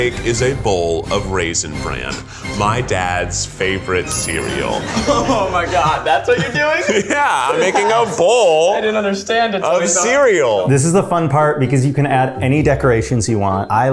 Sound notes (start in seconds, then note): 4.5 laughs